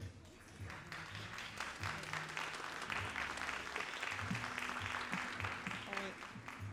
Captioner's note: all applauding